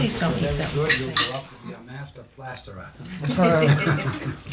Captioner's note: dinner conversation, dishes clinking